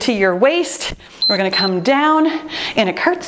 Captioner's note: timer beeps